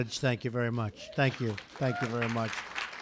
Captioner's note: applause